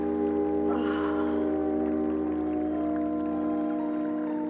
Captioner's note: Delia sighs